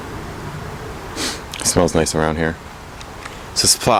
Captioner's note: sniff